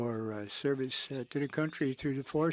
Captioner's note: speaking French